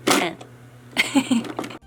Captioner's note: giggle